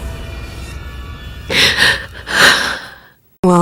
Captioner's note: Pramisa moaning